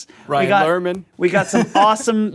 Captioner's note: laughs